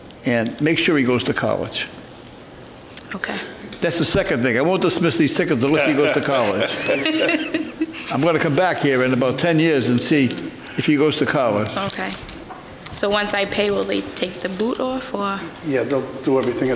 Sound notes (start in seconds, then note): 5.7 softly laughing